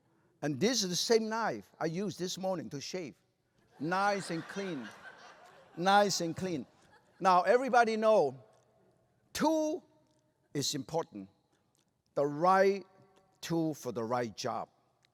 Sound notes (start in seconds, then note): 3.7 laughter